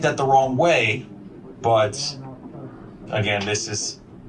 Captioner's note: background chatter